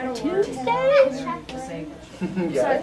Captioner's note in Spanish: Conversaciones de fondo